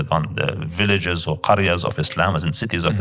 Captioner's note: Arabic